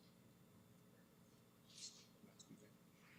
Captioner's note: clerk speaks off mic